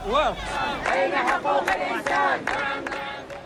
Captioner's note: protesters chanting